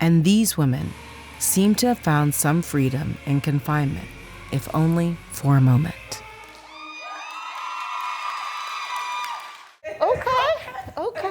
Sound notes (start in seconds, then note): 6.5 cheers